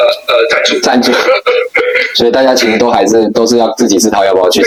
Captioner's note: crying and crying